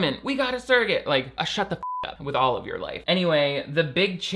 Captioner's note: beep